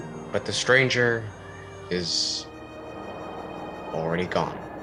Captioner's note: over sounds of wind